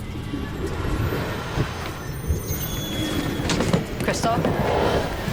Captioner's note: moves into suspenseful orchestral music; ominous whispers